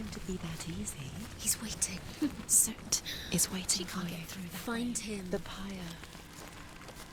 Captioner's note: giggle